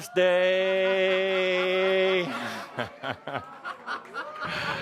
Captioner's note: audience laughter